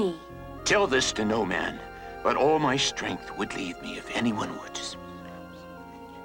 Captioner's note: whispers